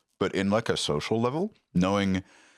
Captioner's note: none